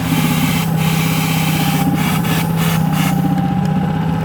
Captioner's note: boat humming